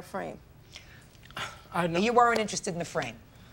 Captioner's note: sighs